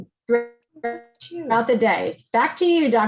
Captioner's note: distorted audio